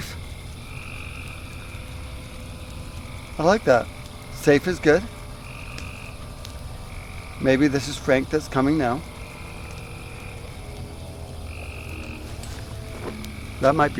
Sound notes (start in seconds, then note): 0.2 crickets; 5.3 crickets; 8.5 distant motor revving; 9.3 crickets